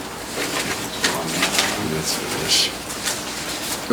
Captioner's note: murmuring